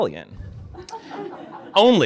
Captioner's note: laughter